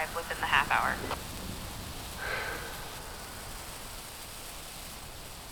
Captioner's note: flares hissing